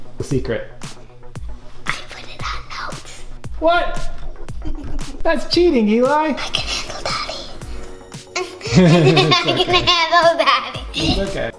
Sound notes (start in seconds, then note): 1.8 whispering; 8.4 laughter